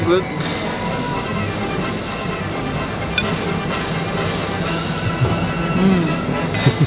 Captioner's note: orchestral music continues; spoon clinks